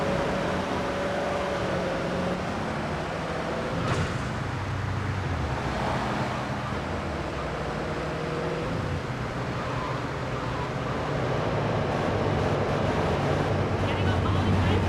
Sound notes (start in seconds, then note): 8.4 car engine roaring; 13.2 speaking in foreign language